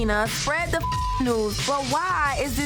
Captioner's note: beep